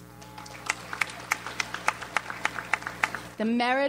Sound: audience applauds

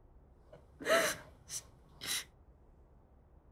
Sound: sobbing

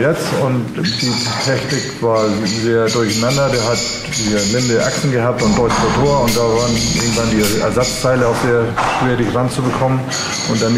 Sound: birds in the background

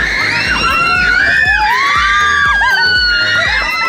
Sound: laughs; everyone screaming

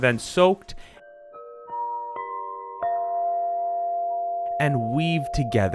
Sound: bell tones

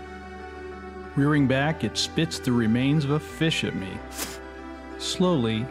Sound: spit

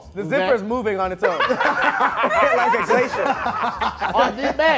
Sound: laughing

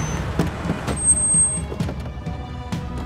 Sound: car doors opening

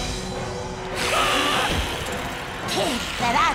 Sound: hissing; screaming

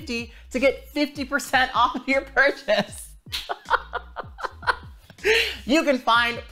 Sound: laughs

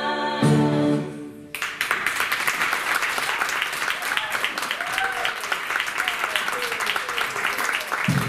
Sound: applause

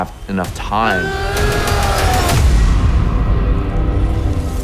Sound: grunting yell

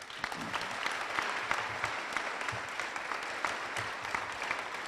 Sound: applause

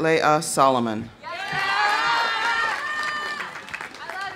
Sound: audience cheering; audience applauding

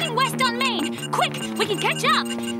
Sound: beeping

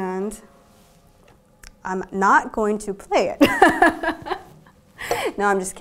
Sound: haha

